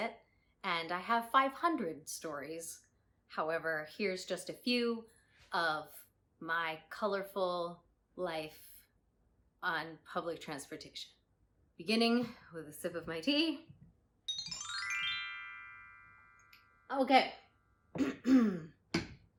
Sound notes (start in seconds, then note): 14.2 chime sound